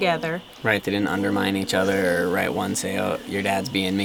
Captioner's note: voiceover